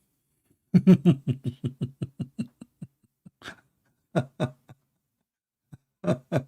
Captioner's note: Ketawa